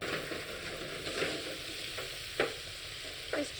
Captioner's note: sizzling